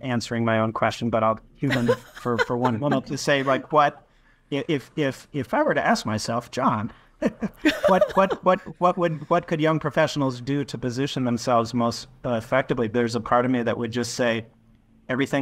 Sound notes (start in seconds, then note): 7.2 chuckles